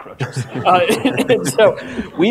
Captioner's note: audience laughter